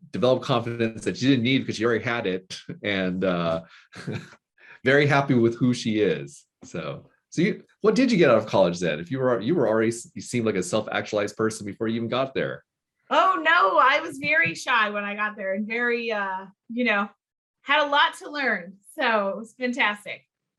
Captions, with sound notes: developed confidence that you didn't need 'cause you already had it, and (chuckling) very happy with who she is. What did you get out of college then? You already seem like a self-actualized person before you even got there? - Oh no, I was very shy when I got there. You know, had a lot to learn. So it was fantastic.